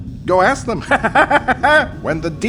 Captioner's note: crazed laughter